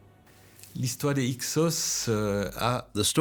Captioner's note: speaking French